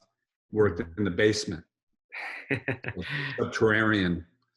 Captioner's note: Jonathan laughs